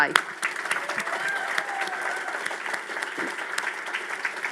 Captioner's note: audience cheers